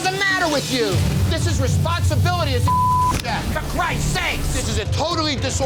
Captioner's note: beep